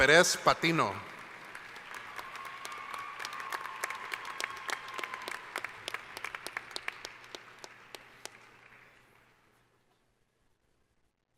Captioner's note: cheering